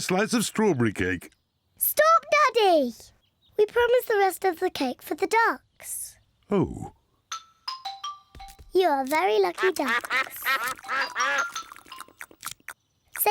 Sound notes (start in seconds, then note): 9.5 ducks quack